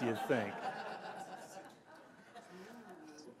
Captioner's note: laughter